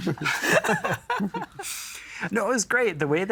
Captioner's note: all laughing